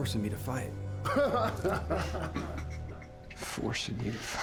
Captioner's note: laughing